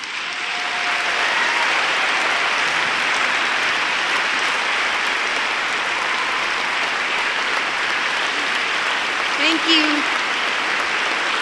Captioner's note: applause